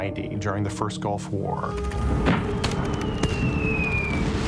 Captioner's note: guns firing